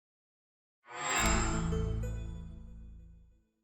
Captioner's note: chime